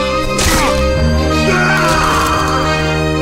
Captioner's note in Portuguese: gritos